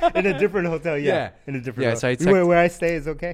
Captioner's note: laughs